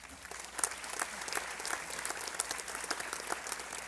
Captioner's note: applause